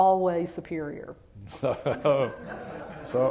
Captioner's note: laughter